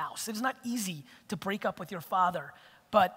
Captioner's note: none